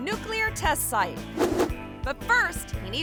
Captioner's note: air whooshes